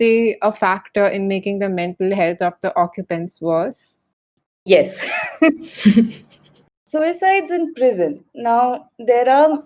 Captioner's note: laughs